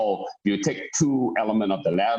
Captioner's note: mumers